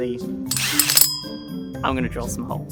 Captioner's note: drill whirs